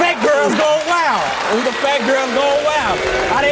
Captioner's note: audience laughs